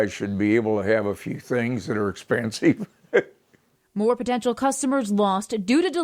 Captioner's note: laugh